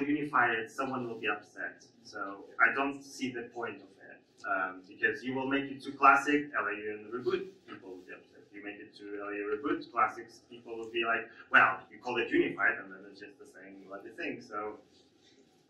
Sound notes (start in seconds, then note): none